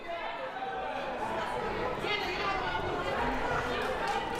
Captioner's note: crowd murmuring